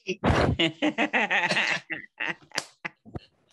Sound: laughing

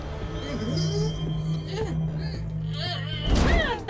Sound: strained grunting

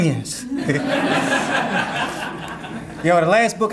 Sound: audience laughing

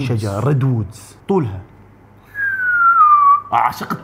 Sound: whistles

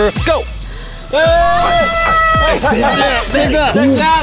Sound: screaming; laughing

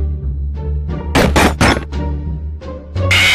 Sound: stomping; jumpscare noise

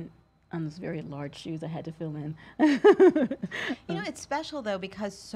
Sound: laughs

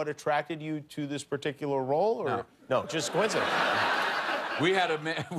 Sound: laughter

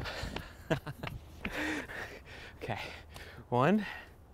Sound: laugh

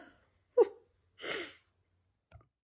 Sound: sighs

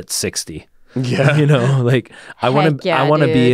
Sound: laughs

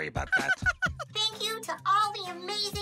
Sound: laughs

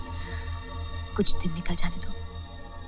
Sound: none

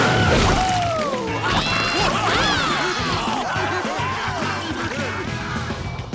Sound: laughing

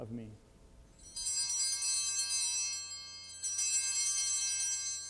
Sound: bells ringing

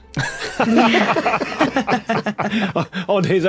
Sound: group laughing

